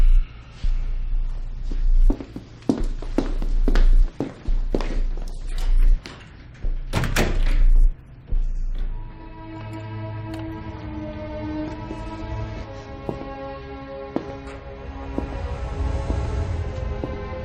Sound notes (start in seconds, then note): 2.6 footsteps; 6.8 door closing; 8.5 dramatic music starts playing